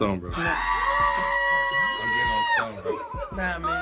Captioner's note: men shouting